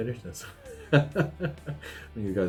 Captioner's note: laughs